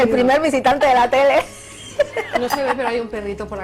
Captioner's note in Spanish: risas